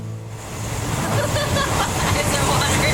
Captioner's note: laughing